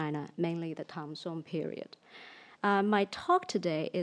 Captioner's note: speaks in foreign language